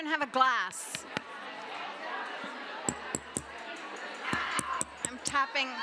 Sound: chatter

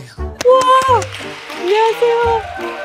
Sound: applause

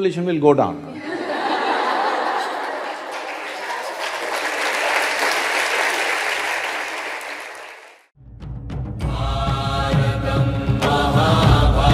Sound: laughter/Applause

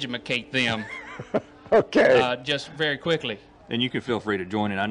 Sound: laughs

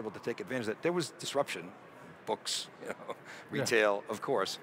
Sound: laughs

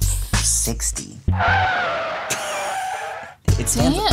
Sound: car breaks squeal

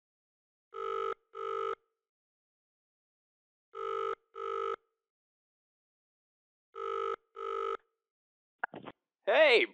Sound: SFX: phone ringing

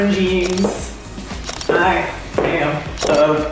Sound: photos snapping

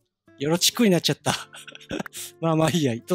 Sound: giggle

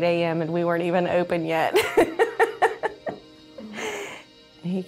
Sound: laughs

